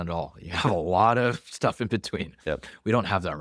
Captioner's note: laughs